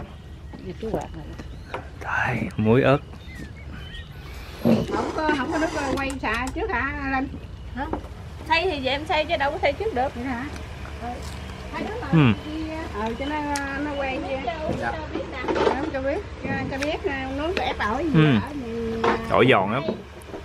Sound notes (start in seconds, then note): 4.5 talking